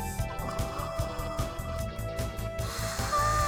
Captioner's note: shocked gasp